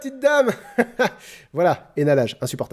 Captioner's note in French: Rires forcés